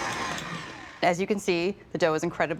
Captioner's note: mixer stops